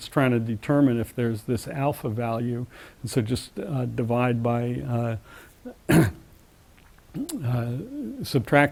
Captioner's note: cough